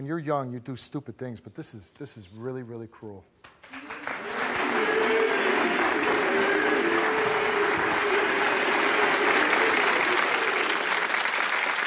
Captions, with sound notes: When you're young, you do stupid things, but this is, this is really, really cruel. (audience applauding) (audience jeering) (audience applauding)